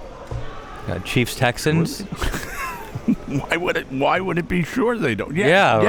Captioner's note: laughing